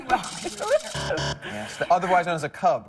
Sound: buzzer

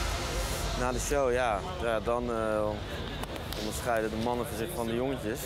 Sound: speaks in a foreign language

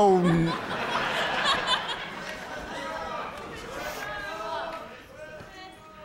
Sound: laughter

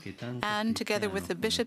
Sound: speaking alternate language

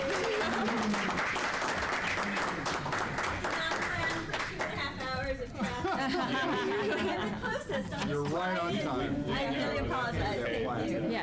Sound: applause

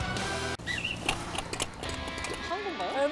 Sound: A plaintive whistle

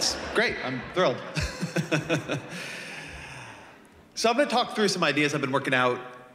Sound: laughter

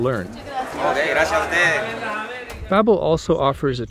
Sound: speaking in foreign language

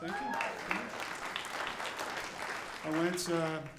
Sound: audience applauding

